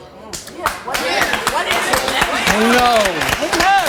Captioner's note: audience clapping